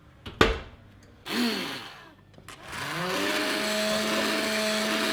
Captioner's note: whirring